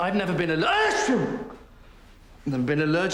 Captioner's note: sneezing